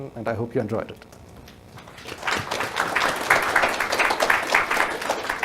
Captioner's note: crowd clapping